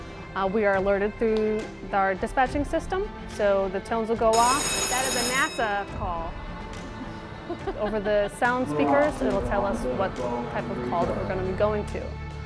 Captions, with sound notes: we are alerted through our dispatching system. So the tones will go off. [alarm ringing] That is a NASA call. [laughs] Over the sound speakers, it'll tell us what type of call that we're gonna be going to.